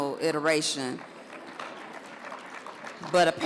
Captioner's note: audience applauds